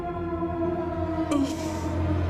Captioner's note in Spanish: Quejidos